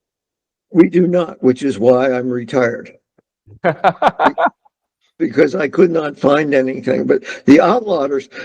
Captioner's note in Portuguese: risos